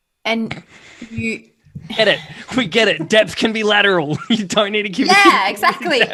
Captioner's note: laughs